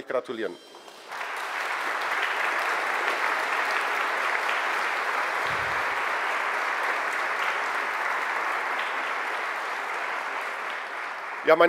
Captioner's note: general applause